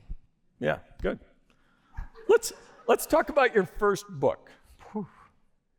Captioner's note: laughter